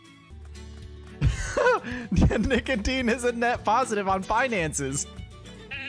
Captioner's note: chuckles